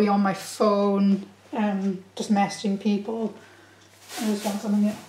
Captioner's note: none